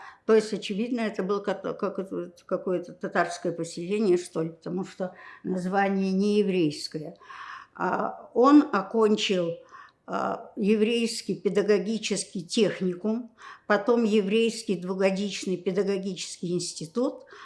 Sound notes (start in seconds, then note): none